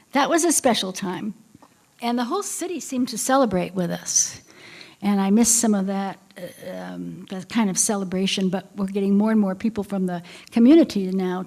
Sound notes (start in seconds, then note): none